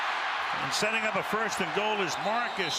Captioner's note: cheers